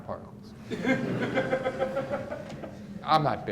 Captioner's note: audience laughs